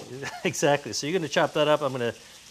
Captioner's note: chuckling